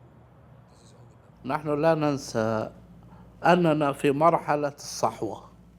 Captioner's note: speaking in Arabic